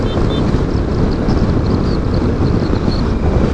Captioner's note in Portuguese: som de buzina